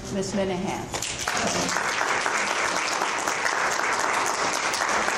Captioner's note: audience applauds